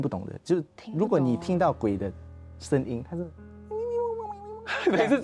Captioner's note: high-pitched sound